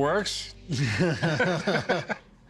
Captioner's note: laughter